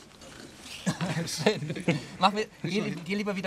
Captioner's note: laughs